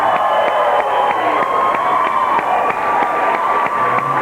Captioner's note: applause